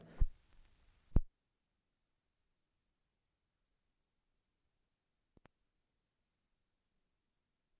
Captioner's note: no audio